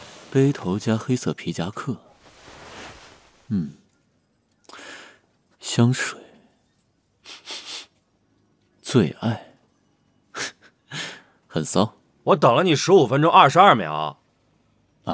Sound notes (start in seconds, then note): 7.2 sniffs; 11.0 laughs